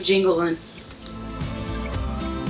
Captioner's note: lanyard jingles; upbeat music continues